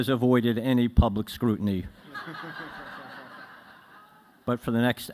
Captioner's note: laughter